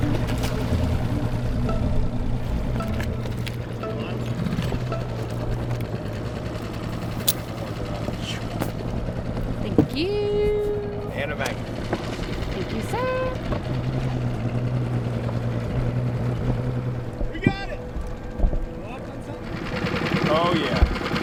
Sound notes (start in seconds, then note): 0.0 water splashing; 3.9 engine revving